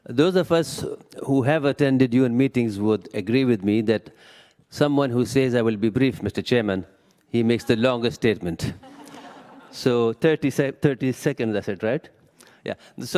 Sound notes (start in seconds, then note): 8.7 laughter